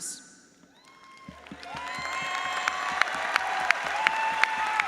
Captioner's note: audience applauds